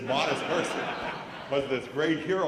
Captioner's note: laughter